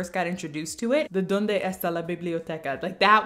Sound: in Spanish

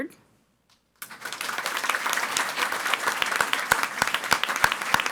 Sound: audience applauding

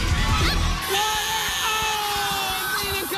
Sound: buzzer

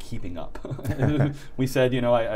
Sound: laughing

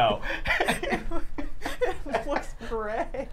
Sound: both laughing

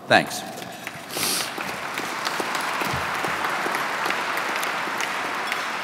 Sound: audience clapping

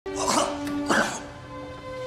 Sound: hacking coughs

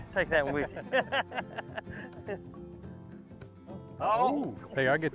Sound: all laugh

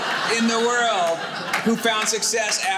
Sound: audience laughing

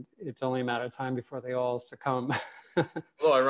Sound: laughs

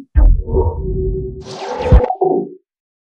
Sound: electronics beeping and whooshing

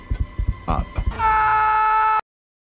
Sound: scream

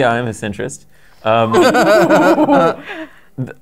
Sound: laughter

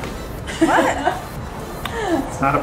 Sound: laughs

